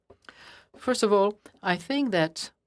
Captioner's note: speaking in French